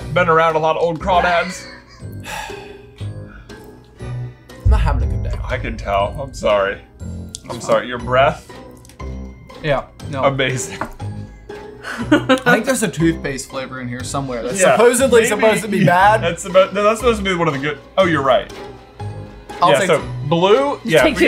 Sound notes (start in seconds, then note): 2.2 sighs; 11.2 laughing